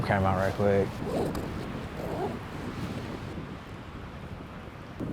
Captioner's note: zipper closing